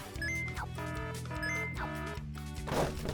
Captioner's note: alarm rings